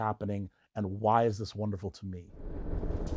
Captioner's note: transition whooshes